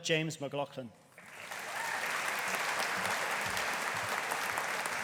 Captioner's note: audience applauding